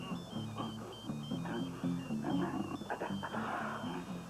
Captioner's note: téléphone vibrant